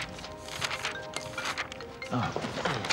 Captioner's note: cell phone ringing